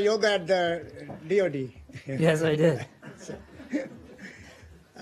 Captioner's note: laughter